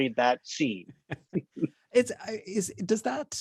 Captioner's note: laughs